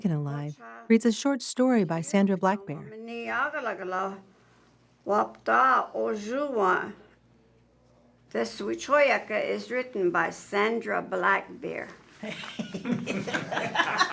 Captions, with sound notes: reads a short story by Sandra Black Bear. (speaking Lakota) This wičhówoyake is written by Sandra Black Bear. (all laughing)